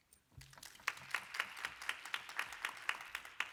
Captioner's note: applause